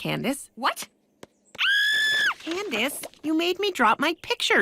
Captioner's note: screams